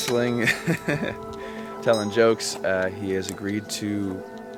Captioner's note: laughs